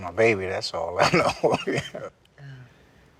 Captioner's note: chuckles